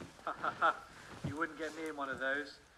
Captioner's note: laughing